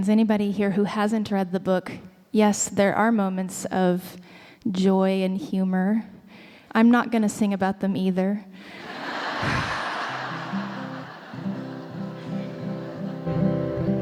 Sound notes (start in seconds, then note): 10.9 audience laughing